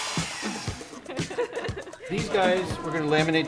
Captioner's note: laughter